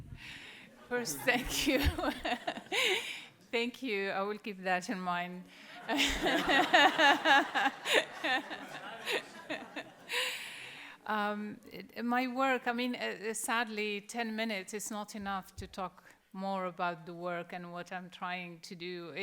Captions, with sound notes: - First, thank you. (laughs) Thank you. I will keep that in mind. (laughter) My work, sadly 10 minutes is not enough to talk more about the work and what I'm trying to do.